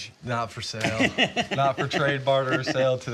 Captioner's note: laughs